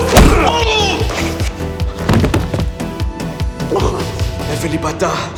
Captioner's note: Dr. Ravi cries out; speaking in foreign language